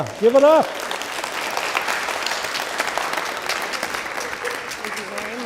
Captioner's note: applause